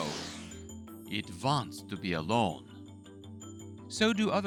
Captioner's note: uses German accent